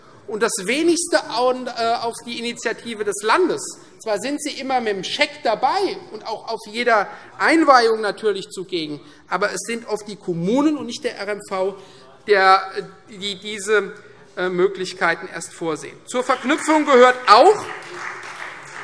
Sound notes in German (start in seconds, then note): 16.2 Beifall Freie Demokraten